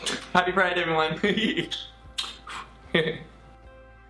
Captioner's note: laughs; lighthearted music